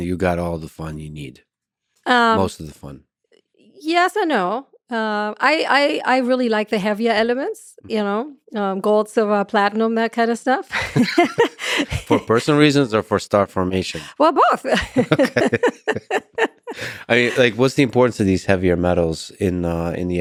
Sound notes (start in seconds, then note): 10.7 both laugh; 14.7 Lex and Anna laughing